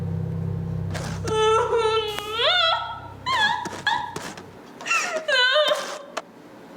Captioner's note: whimpering